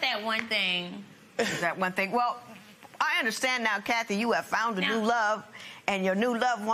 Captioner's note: none